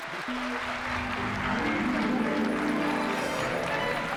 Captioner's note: audience applauding